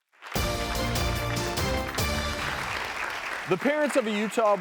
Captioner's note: audience applauds; upbeat music